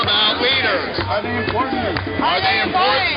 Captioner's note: voiceover